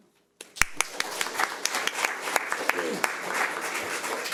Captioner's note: audience applauds